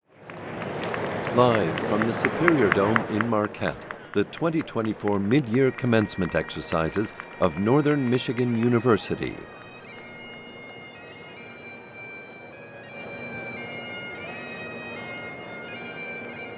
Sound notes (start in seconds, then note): 0.3 crowd applauding; 10.0 spirited instrumental music